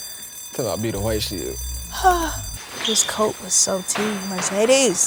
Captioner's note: sighs